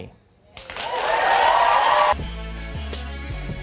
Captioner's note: audience cheering and applauding